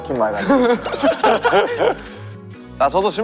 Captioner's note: hahaha